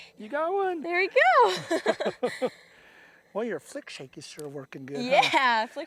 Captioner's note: laughter